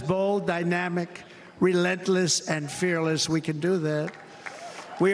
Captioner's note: cheers and applause